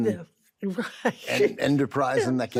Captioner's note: laughs